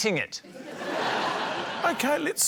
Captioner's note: laughter